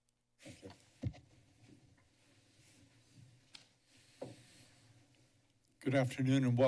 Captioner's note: silence